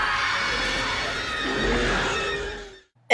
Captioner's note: Graboid squeal